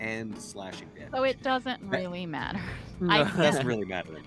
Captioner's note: chuckles; Cornette laughs